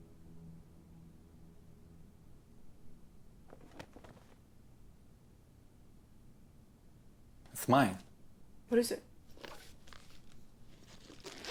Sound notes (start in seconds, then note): 3.9 bag rustling